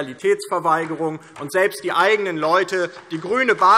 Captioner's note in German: Beifall DIE LINKE